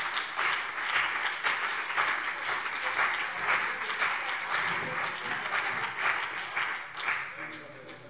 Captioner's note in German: Beifall BÜNDNIS 90/DIE GRÜNEN und CDU